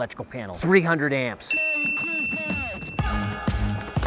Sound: bell rings; upbeat music

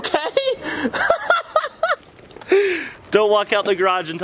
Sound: laughs

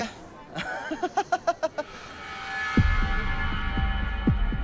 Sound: laughs

